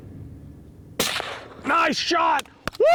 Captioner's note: gun fires